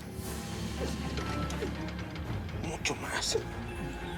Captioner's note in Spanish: sollozos